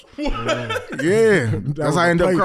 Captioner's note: laughs